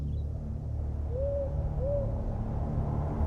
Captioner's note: owl hooting